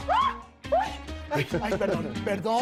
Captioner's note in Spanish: Gritos y exclamaciones